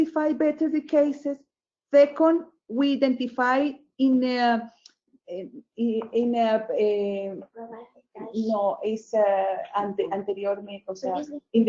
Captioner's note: speaking a different language